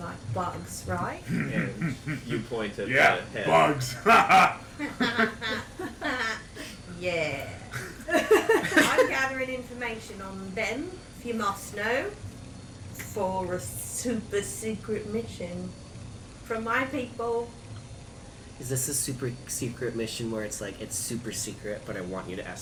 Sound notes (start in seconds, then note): 6.0 laughs; 7.7 joins in the laughter